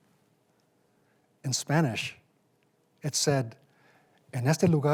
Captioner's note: speaking in Spanish